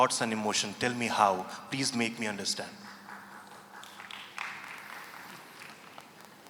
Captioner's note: few applaud